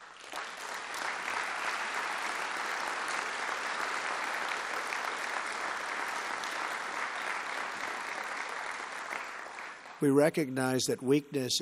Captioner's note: applause